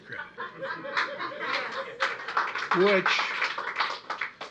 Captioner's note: laughter and applause